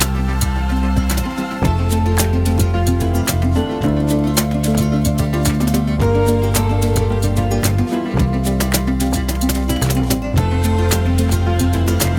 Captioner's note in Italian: Applauso